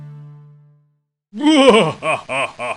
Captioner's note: evil laugh